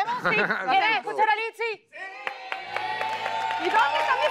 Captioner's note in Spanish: Aplausos